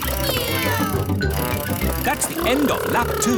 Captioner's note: kids imitating vehicle sounds